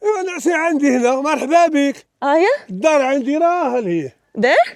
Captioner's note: man speaks Arabic